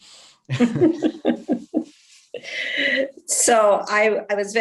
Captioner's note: laughing